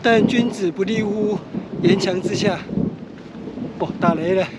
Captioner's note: thunder continues